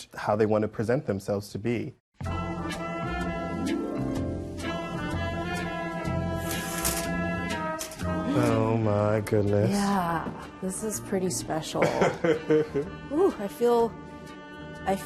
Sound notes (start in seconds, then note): 2.4 mellow music; 11.8 laughs